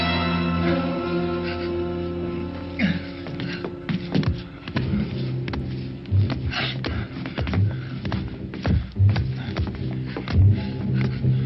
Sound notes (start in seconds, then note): 2.7 people grunting; 7.3 suspenseful music continues